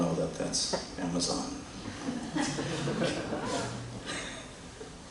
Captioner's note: laughter